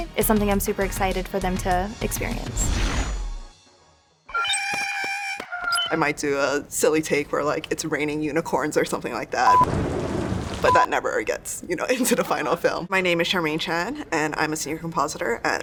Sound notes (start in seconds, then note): 9.6 thunder